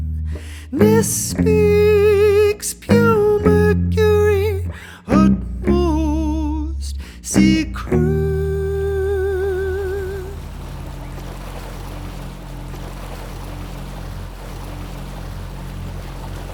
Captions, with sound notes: Ness speaks pure mercury utmost secret. [motorboat engine]